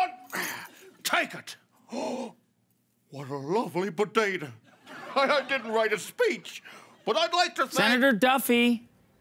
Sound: gasps

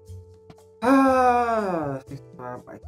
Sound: sighs

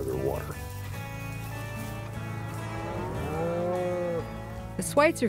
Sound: cattle mooing

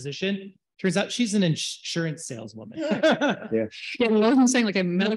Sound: laughs

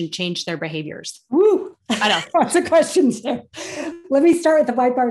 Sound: laugh

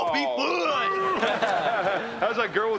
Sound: laughing

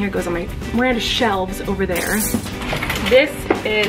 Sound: glass breaking

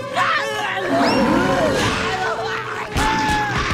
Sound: screaming; roaring; screaming, roaring

